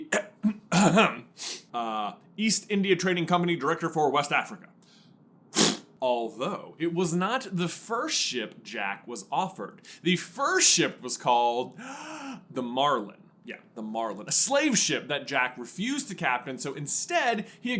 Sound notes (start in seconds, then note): 0.0 cough ahem cough; 4.8 exhale